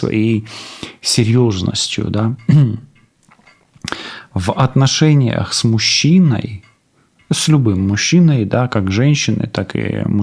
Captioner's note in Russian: откашливается